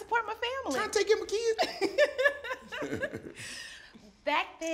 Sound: laughs

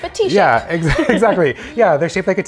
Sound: laughs

